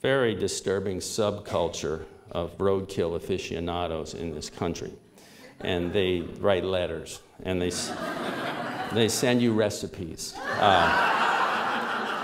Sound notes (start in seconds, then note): 7.7 laughter